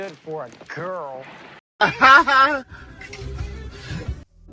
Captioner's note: sarcastic laughter